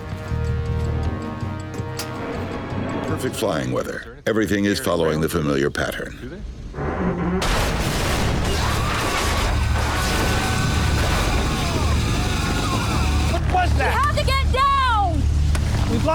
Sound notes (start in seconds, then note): 0.0 ominous music; 7.4 loud explosion booms